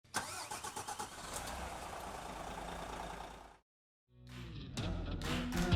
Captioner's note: engine starts and idles; soft rock music